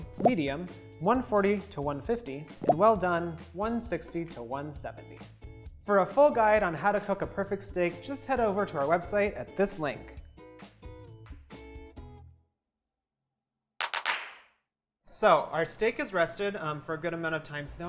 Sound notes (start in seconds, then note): 10.5 upbeat festive music; 13.8 fast-paced clapping